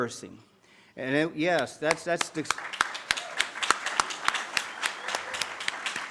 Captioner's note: audience claps